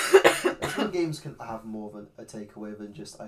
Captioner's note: coughs